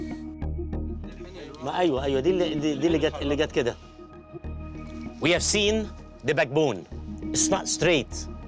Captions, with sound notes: (speaking foreign language) We have seen the backbone, straight.